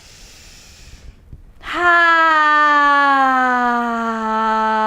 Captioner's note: inhaling and sighing